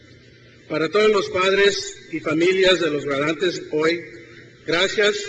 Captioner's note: begins in foreign language